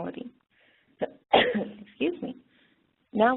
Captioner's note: coughs